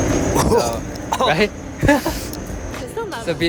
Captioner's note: gags